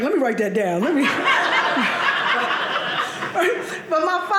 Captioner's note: audience laughing